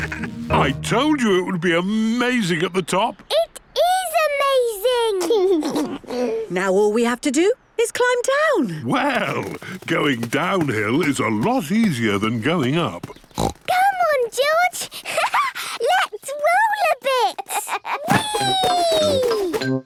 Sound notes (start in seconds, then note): 0.0 bleating, laughing; 5.2 George giggles; 13.0 snorts; 17.1 laughs